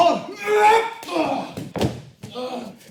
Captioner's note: kicking